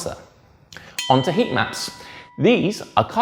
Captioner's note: bell dings